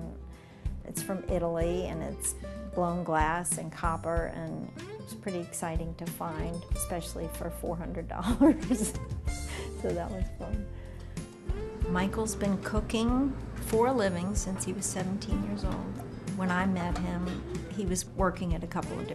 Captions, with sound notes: IT'S FROM ITALY AND IT'S BLOWN GLASS AND COPPER AND IT WAS PRETTY EXCITING TO FIND, ESPECIALLY FOR $400. [LAUGHS] SO THAT WAS FUN. MICHAEL'S BEEN COOKING FOR A LIVING SINCE HE WAS 17 YEARS OLD. WHEN I MET HIM, HE WAS WORKING AT A COUPLE